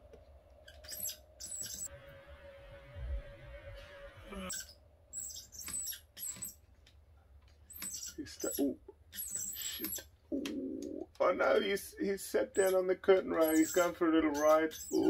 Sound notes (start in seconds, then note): 1.3 wheel squeaks